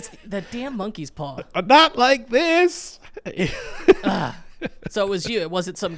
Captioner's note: laughing